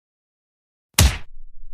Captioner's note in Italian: FX - Punch